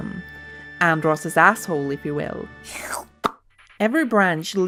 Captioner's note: slurp sound